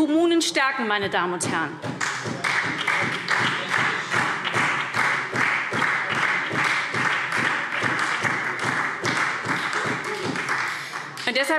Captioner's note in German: Beifall SPD